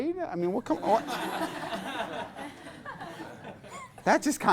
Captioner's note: class laughs